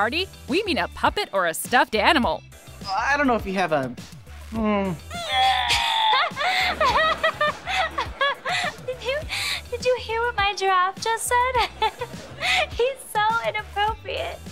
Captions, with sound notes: we mean a puppet or a stuffed animal. I don't know if you have a... mmh... [toy groans] [laughing] Did you... Did you hear what my giraffe just said? [laughing] He's so inappropriate!